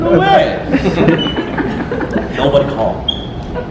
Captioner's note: audience giggles